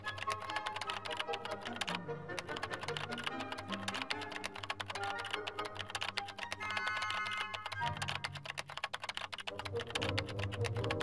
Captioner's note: typing